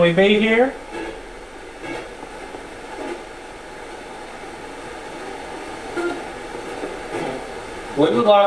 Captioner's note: static sound